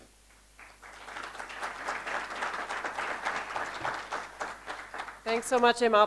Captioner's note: applause